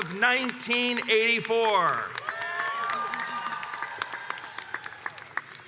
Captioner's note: audience applauds and cheers